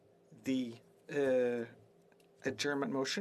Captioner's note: speaking French